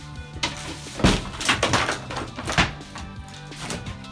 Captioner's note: wall thudding